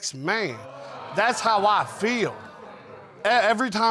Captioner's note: audience exclaiming